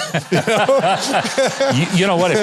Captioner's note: everybody laughing